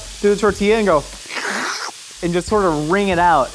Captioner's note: slurping